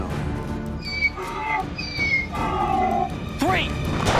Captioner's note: donkey brays